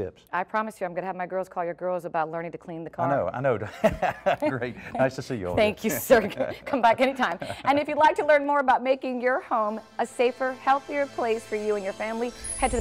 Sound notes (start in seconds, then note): 3.6 laugh